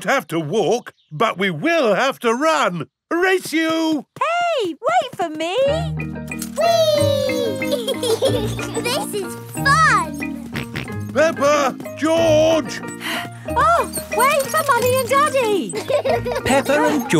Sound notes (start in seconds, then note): 7.0 both laughing; 10.4 george snorts; 12.4 panting